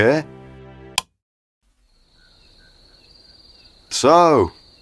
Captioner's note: click, then cricket sounds